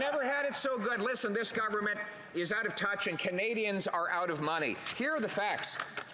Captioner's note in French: voix de l'interprète